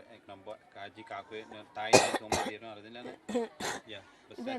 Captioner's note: coughs